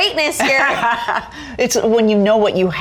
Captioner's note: laughs